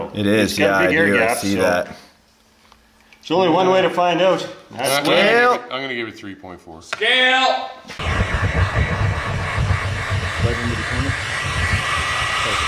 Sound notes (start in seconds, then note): 8.1 swishing